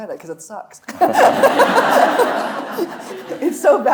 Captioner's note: laughing; audience laughing